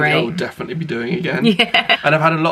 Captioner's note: laughs